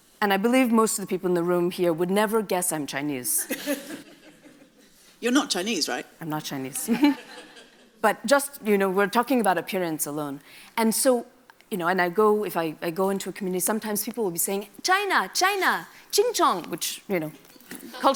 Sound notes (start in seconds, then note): 3.5 audience laughs; 6.8 laughs